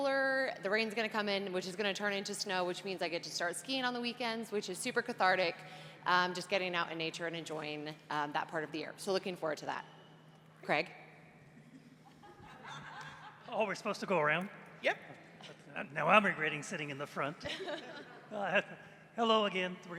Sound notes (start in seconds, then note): 17.7 laughs